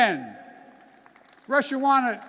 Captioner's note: applause